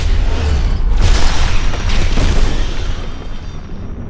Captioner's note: explosion